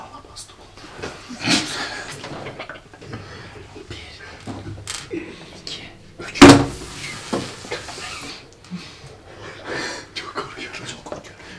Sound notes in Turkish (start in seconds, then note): 2.4 gülme sesleri; 4.5 masaya vurup kart alma sesleri